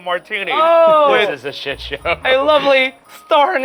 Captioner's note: laughing